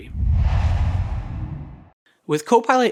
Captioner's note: logo swooshes